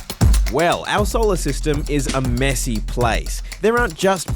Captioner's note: none